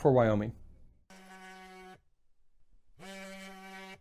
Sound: buzzing

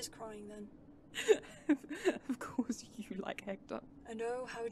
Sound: Regulus laughs

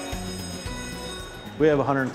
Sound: bell rings

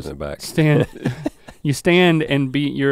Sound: Rhett chuckles

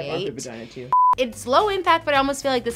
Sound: screen beeping

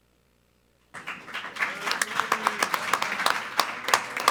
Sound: applause

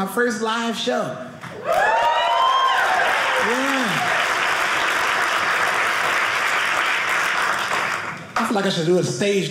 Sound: audience cheering

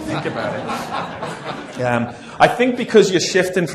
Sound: laughter

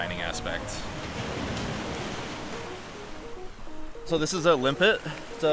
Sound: waves crashing

